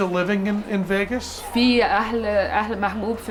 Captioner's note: non-english speech